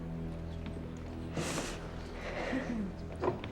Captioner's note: sniffs